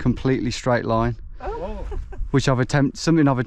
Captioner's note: laughing